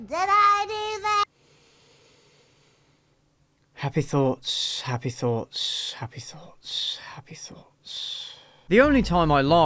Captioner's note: deep breath